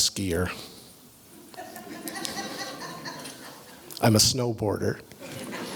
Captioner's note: laugh; laugh